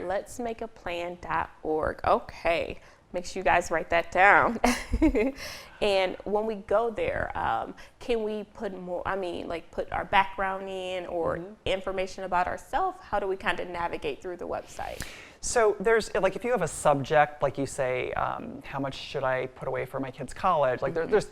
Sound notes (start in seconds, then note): 5.1 laughs